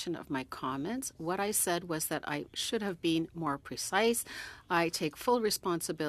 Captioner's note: speaking French